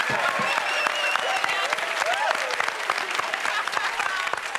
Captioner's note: cheers and applause